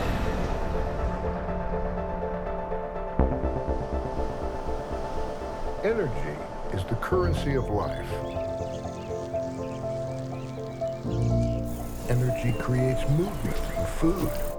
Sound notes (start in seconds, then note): 0.1 midtempo electronic music; 8.9 birds chirp